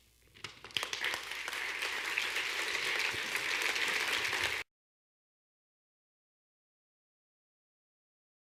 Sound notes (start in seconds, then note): 0.4 audience claps